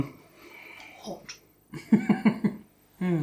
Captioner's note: laughs